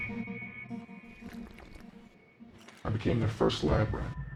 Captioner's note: drinks